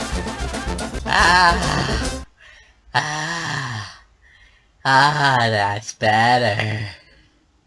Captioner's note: pants relievedly